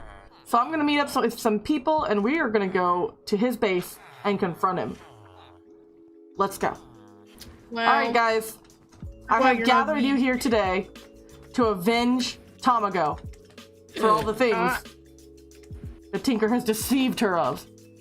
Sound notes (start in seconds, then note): 14.0 teenager laughs